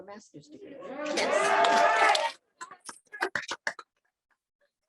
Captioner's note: audience cheering